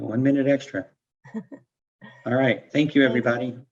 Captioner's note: laughs